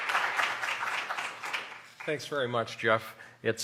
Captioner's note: applause